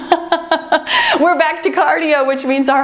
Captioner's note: laughs